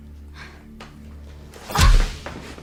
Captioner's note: whack!